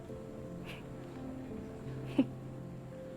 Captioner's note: Serena laughs